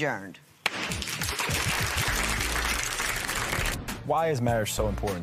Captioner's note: applause